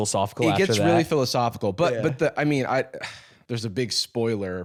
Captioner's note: sighs